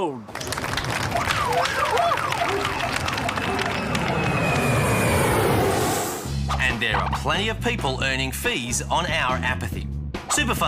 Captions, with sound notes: Sold! (Applause) (Siren blares, dog barking) (Aircraft noise) And there are plenty of people earning fees on our apathy.